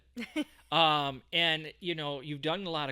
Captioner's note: laughing